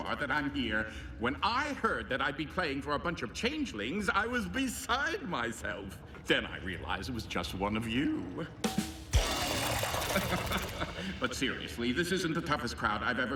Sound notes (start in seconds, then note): 8.8 rim shot; 9.1 changelings hissing; 9.3 laughs